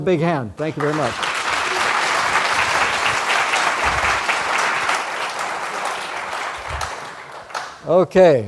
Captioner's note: applause